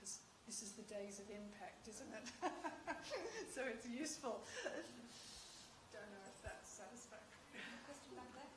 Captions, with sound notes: because this is the days of impact. Isn't it? [laughs] It's useful.